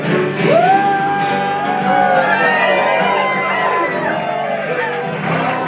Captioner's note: audience cheering